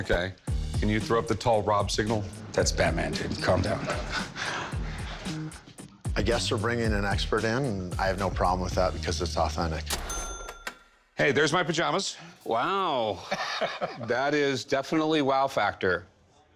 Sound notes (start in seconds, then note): 3.4 sighs; 13.2 chuckles